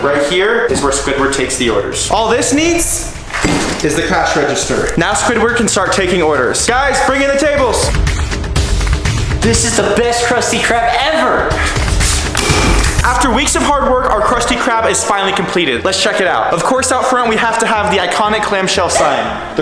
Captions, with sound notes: Right here is where Squidward takes the orders. All this needs... (cash register dinging, cardboard thudding) is the cash register. Now Squidward can start taking orders. Guys, bring in the tables! (intense music) - This is the best Krusty Krab ever! (intense music) - After weeks of hard work, our Krusty Krab is finally completed. Let's check it out. Of course, out front, we have to have the iconic clamshell sign: